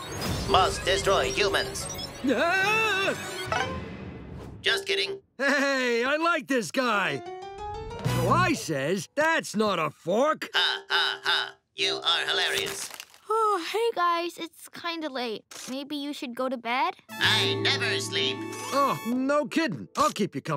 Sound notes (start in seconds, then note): 2.3 screaming; 10.6 robot laugh